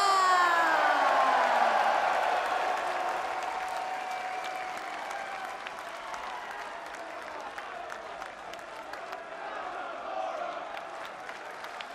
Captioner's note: cheers and applause